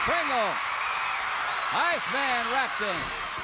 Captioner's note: crowd cheers